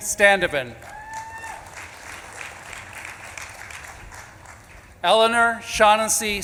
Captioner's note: audience claps and cheers